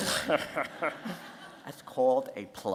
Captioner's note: laughter